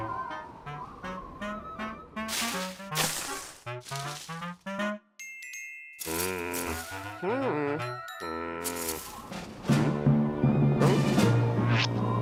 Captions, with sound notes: (leaves crunch) MMM! HI. MMMM! HMM? HUH?